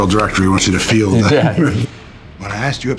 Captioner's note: Matt laughs